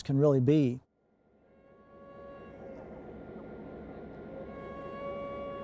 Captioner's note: faint train whistle and rumbling